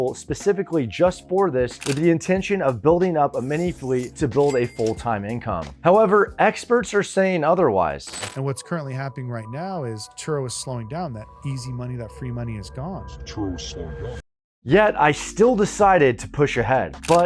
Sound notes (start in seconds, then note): 4.4 cash register dings; 10.2 suspenseful music